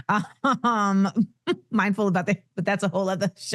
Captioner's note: laughing